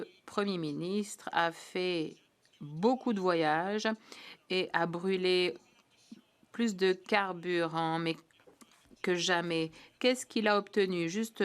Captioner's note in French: voix de l'interprète